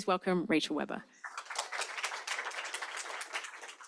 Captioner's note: applause